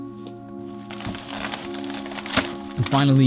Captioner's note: plastic crinkling